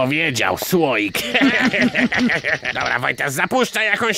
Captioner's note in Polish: śmiech